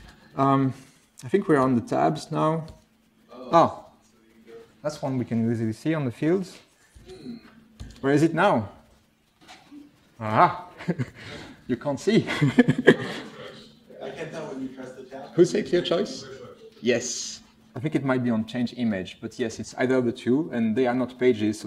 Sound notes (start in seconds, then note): 7.8 keyboard press noises; 12.2 laughs